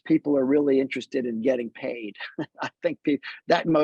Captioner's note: laughs